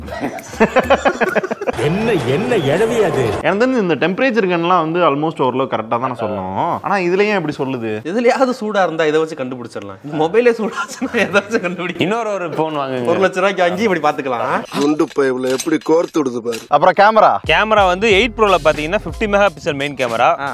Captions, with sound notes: [Men laugh] What the hell is this? I think temperature guns are almost right. Why does it differ here? It can check temperature of something that's hot What if the mobile itself is hot? Buy another phone for 1 lakh and test it. Look how stupid is his idea. Camera? 8 Pro has 50 MP main camera.